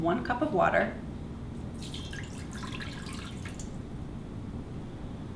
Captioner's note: water splishing